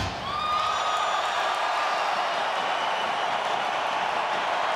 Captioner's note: crowd cheers